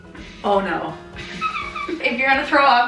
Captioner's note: laughing